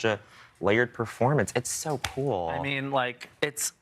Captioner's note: none